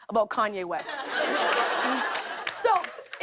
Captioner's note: laughter and applause